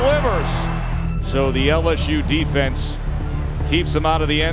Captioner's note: voiceover